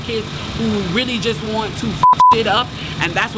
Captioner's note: beep